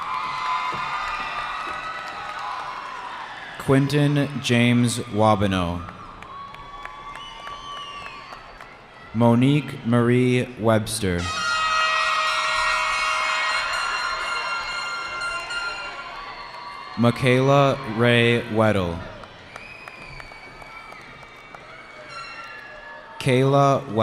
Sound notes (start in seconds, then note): 0.1 cheering; 6.4 cheering; 12.0 cheering; 19.4 cheering